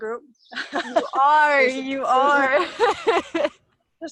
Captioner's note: laughs